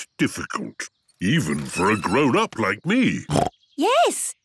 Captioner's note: snorts